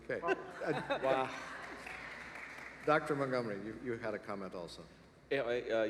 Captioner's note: laughter